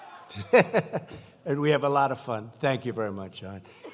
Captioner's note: laughs